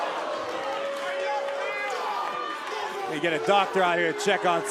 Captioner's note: crowd cheering